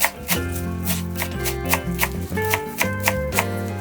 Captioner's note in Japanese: 葱を切る音